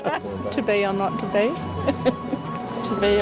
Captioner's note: laughs